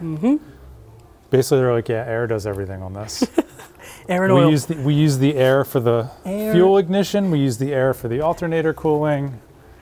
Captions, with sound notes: - Mm-hmm. - Basically they're like, "Yeah, air does everything on this." - (laughs) Air and oil. - We use the air for the fuel ignition, we use the air for the alternator cooling.